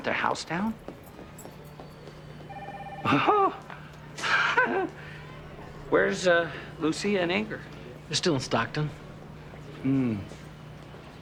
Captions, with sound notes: - You burnt the house down? (Nash scoffing) Where's Lucia and Inger? - They're still in Stockton. - Hmm.